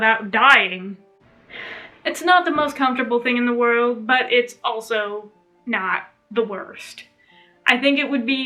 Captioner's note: sigh